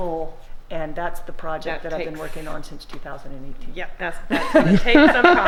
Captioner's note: laughter